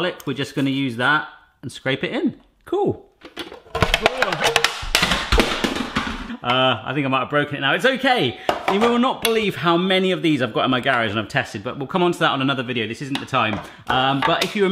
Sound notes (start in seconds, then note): 3.3 clanking